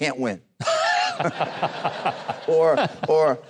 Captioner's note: audience and host laughs